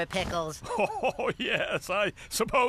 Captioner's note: laughing